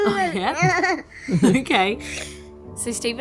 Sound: laughing

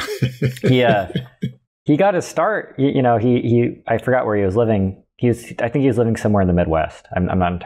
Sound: laughter

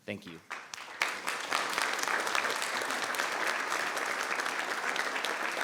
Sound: people clapping

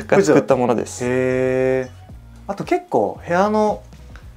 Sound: laughs

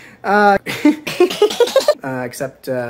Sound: stupid laugh x4 pitch shifted

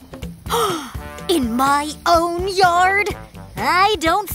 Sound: gasping

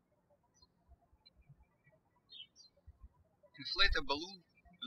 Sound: birds chirping

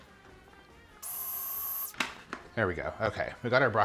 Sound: blender whirring

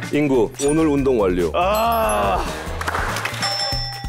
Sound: ding

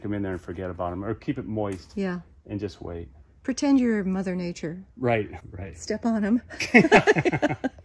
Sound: laughter

